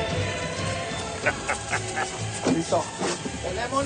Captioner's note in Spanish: Carcajada